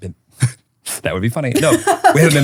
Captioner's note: laughing